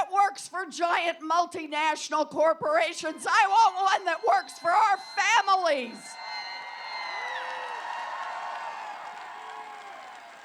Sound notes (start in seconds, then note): 6.6 applause